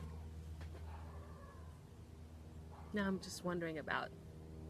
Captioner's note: airplane whirring; dog barking